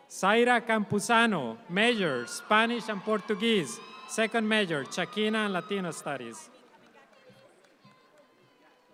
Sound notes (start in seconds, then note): 3.2 audience applauds